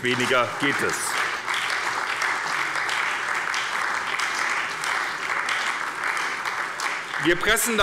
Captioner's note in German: Beifall bei der SPD